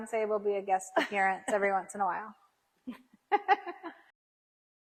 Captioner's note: laughs